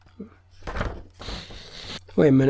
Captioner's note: flipping through pages